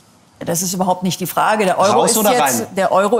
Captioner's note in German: none